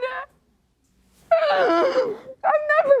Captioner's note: sobbing